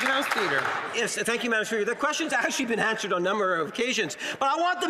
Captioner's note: some Applause